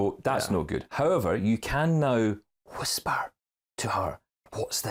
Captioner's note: whispering